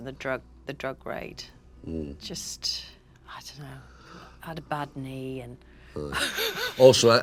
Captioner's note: laughing